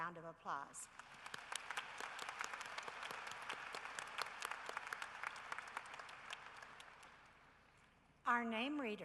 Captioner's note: applause